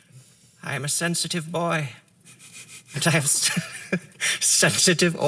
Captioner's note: laughter